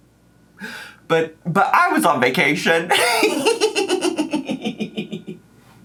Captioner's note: laughs